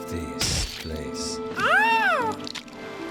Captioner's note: Weird Muppet Oh sound